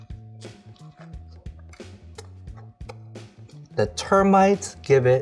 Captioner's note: chewing